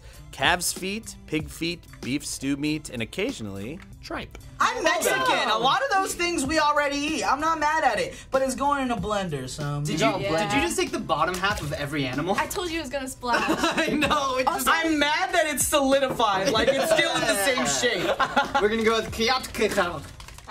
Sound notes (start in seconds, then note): 13.3 laughs; 13.3 chuckles